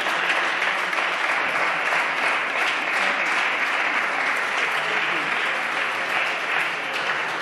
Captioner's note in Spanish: Aplausos